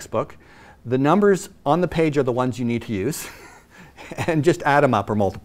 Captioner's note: laughs